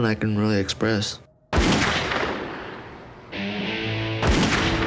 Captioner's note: gunfire